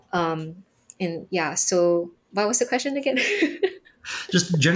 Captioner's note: giggling